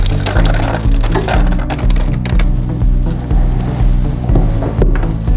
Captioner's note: objects clattering